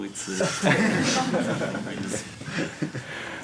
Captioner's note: laughter